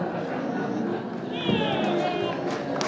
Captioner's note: applause